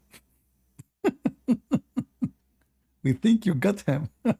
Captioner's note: Ketawa